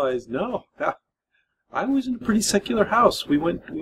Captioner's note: laughs